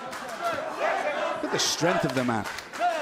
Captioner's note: fans chanting